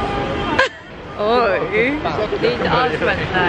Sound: laughter

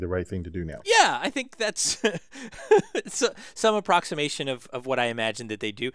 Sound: laugh

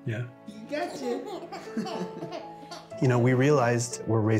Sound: chuckles

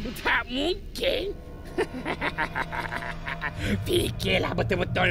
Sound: laugh

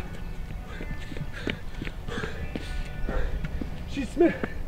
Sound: panting; breathes heavily

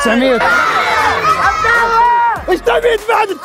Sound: shouting

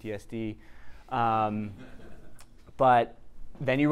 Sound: audience chuckling

